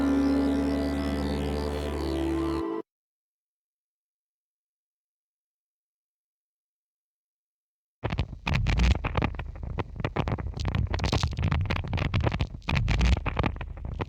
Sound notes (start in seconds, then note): 8.7 radio tuning static